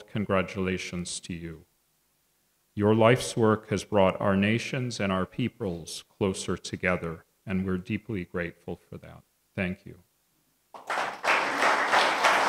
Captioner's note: applause